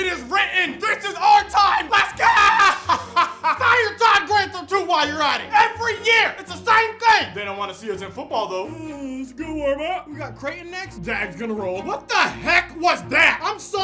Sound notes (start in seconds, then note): 2.2 laughs; 8.6 yawns and mumbles